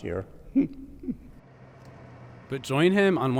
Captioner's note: laughs